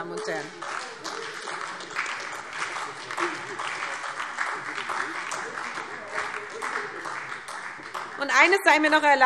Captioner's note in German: Beifall SPD und vereinzelt DIE LINKE